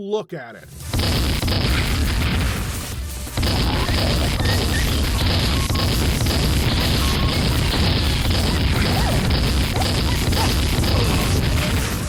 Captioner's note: indescribable sounds of pure pain and agony